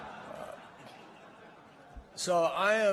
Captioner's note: laughter